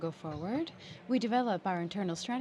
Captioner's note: speaking french